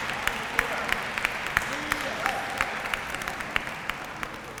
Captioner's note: applause